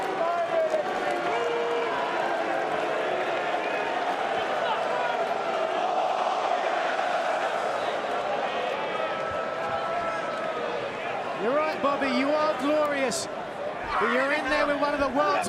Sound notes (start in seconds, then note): 3.0 crowd cheering